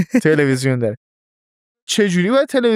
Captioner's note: laughs